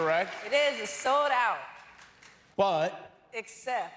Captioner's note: cheers and applause